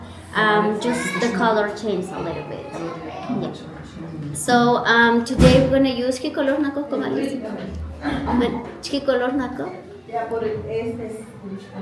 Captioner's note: Spanish